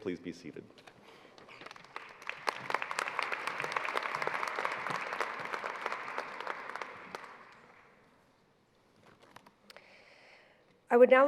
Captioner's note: applause